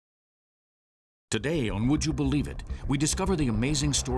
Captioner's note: voiceover